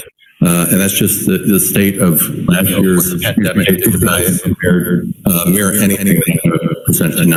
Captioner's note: distorted sound